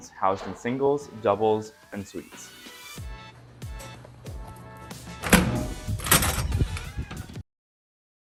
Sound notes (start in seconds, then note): 1.8 upbeat music; 4.9 door opening